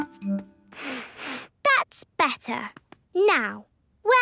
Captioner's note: sniffs